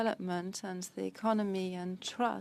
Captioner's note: speaking French